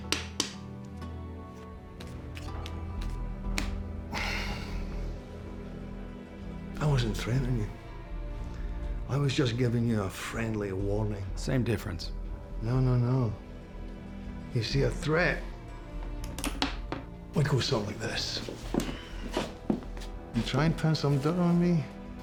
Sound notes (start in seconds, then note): 0.0 tapping, shuffling sounds; 4.1 sighs; 6.5 scottish accent; 12.5 scottish accent; 16.1 gun clicking